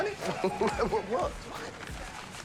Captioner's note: laughs